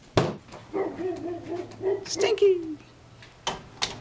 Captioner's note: Blackie barking